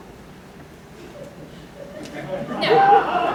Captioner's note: laughter